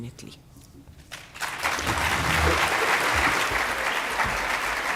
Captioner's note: audience clapping